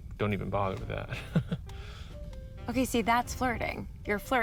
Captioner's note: chuckles nervously